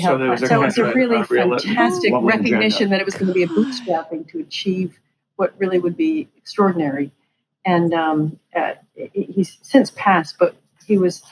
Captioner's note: laughing